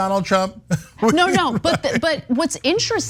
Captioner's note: laugh